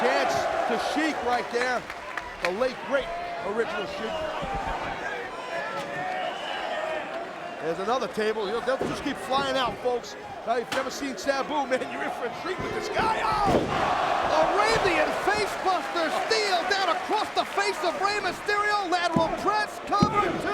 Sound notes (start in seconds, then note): 12.5 spectators exclaiming